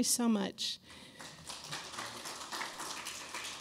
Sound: applause

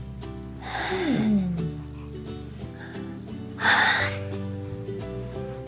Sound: bright music; yawns

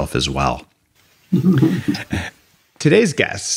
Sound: laughing

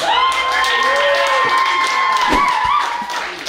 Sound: cheering

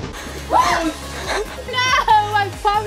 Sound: screams

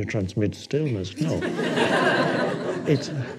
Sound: audience laughing

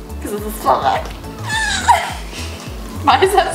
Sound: laughs

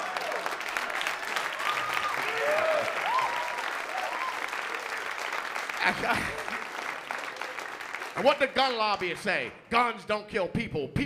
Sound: applause

